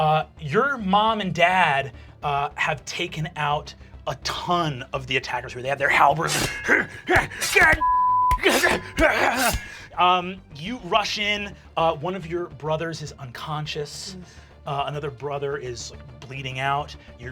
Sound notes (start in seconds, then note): 7.8 beeping; 8.3 groaning; 8.3 slicing